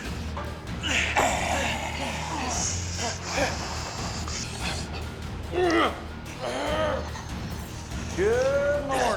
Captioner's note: jack and charles struggling